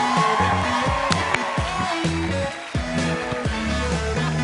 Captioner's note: cheers and applause